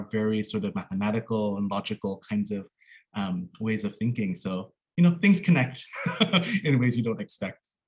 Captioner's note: laughs